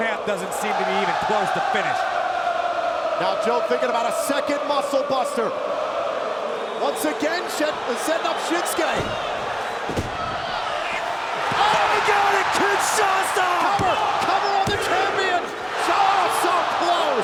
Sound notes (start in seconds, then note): 13.4 audience cheers